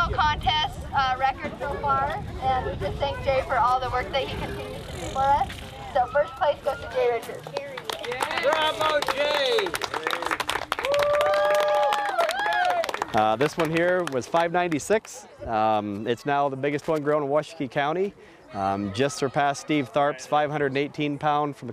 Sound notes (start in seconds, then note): 7.5 applause